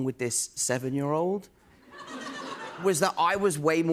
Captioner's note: laughter